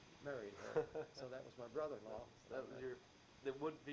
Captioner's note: chuckles